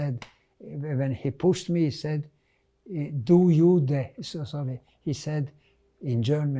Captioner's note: german